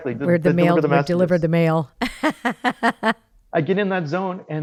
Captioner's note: laughs